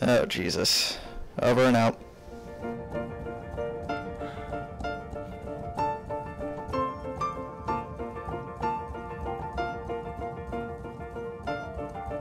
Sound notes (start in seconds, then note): 4.1 Jacobs sighs; 8.2 outro music